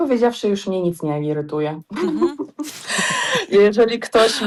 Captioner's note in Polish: śmiech